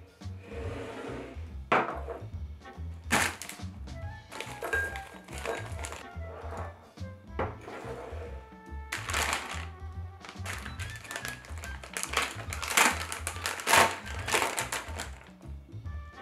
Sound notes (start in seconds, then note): 3.1 plastic bag rustling